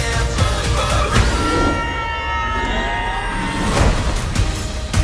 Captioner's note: both screaming